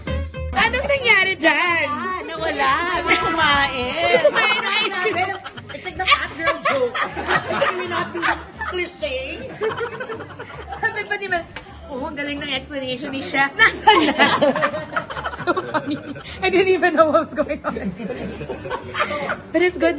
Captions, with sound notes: ATE RUFF, WHAT HAPPENED TO YOUR FOOD? I DON’T KNOW, IT’S GONE! [LAUGHS] I DON’T EVEN KNOW WHAT’S GOING ON.